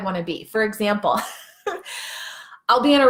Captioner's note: laughing